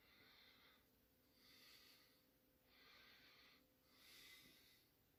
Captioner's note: breathes heavily